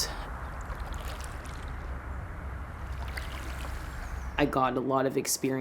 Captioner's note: water splashes